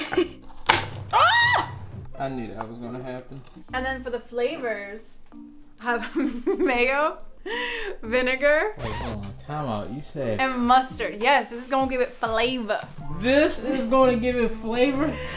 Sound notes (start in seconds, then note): 0.0 laughing; 1.1 screaming